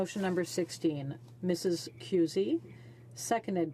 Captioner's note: speaking French